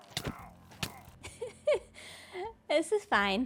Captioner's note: laughs